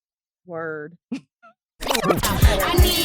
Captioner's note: laughs